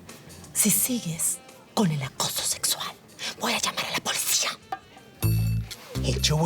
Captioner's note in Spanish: Susurra